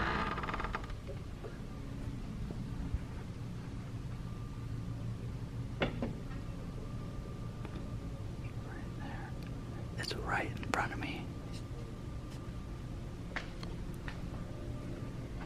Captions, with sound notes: (WHISPERING) Right there. It's right in front of me.